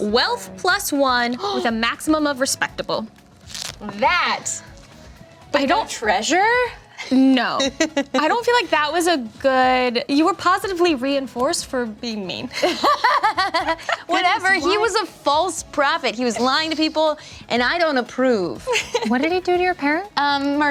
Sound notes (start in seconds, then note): 12.6 laughing